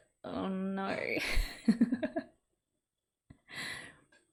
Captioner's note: laughs